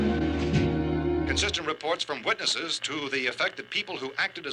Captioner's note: radio